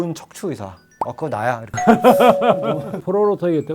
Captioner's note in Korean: 웃음